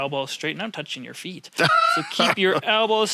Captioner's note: laughs